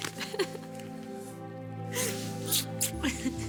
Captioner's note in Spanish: Risas